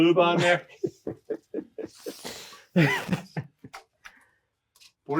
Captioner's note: speaker laughing